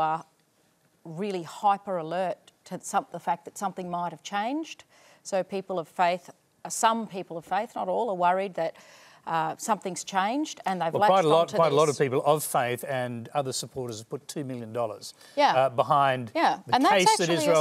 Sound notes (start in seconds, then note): none